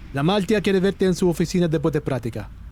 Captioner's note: in Spanish